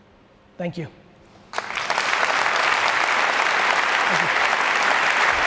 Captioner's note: audience applauds